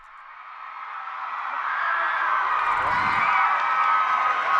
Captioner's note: crowd cheering